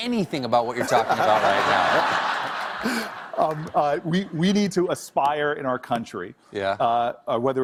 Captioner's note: laughter